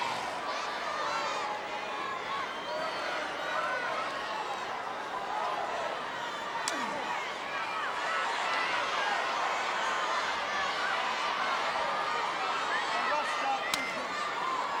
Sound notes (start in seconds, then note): 4.6 audience chattering